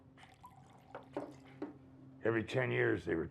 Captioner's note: alcohol sloshing